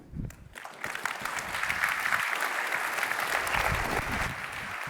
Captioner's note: applause